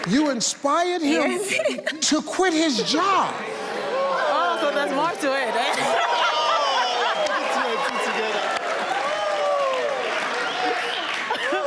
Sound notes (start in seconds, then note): 5.6 audience mumbles